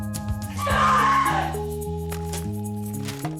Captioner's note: screaming